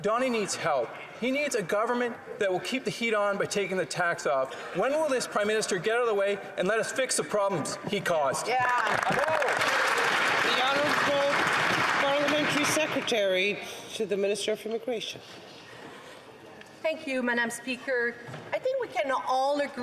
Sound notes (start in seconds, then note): 12.8 some Applause